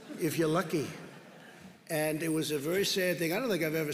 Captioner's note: laughter